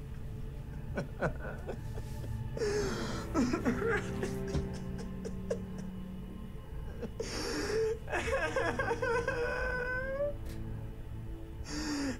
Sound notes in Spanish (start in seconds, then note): 6.8 Llorando